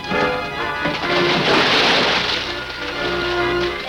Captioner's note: splash